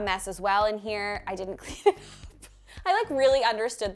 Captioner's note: laughing